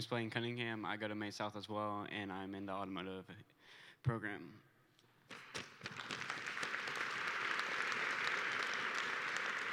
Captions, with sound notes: Maine South, automotive program. (Applause)